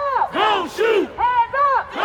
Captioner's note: crowd